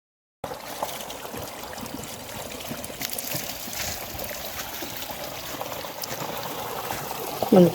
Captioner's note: sound of water flowing